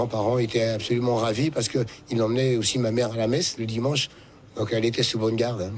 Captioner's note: speaking in French